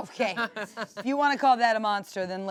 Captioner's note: laughs